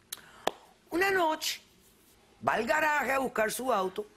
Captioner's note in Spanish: chasquea la lengua